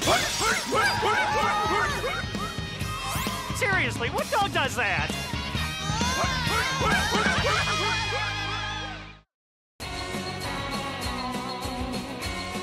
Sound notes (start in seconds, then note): 5.1 yelping